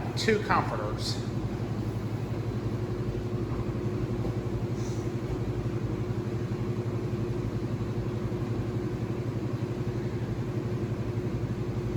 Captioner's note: washers and dryers running